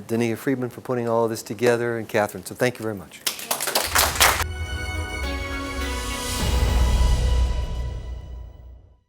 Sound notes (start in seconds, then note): 3.2 applause